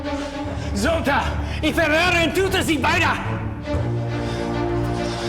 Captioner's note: Siegmund speaking German; suspenseful music